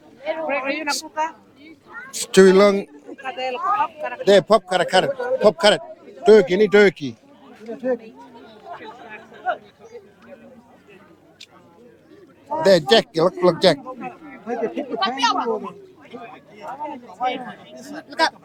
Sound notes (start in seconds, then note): 2.7 laughing; 5.3 people chattering; 18.2 people chattering